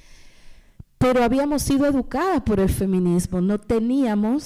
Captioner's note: speaking spanish